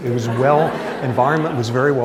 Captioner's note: laughter